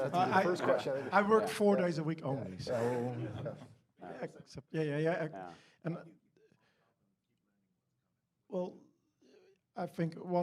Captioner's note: laughing